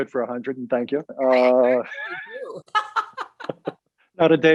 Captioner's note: laughs